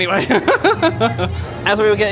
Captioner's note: laughs